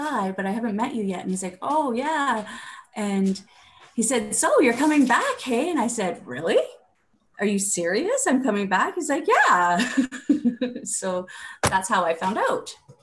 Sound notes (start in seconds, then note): 10.4 laughing